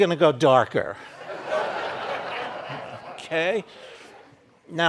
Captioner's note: audience laughing